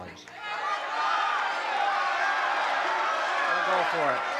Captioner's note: crowd shouting